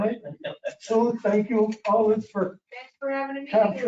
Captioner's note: man laughing